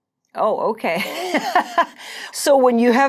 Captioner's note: laughing